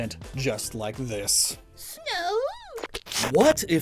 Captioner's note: Snugooi trills